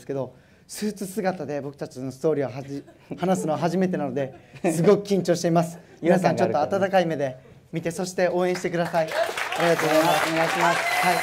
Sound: applause

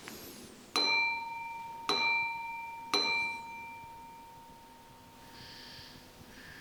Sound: clang x3

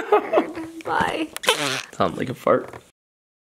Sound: blows raspberry

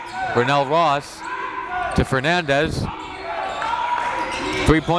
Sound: crowd chants

